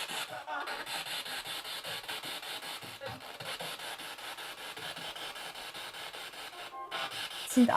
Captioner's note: sound of the Spirit Box in the background